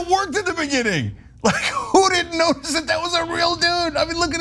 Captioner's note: laugh